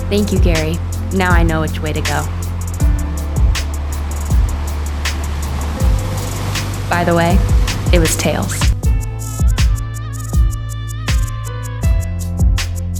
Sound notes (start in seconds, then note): 4.1 waves crashing